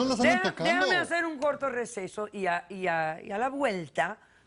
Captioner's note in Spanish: Hablan al unísono